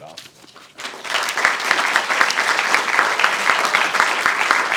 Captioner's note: audience cheering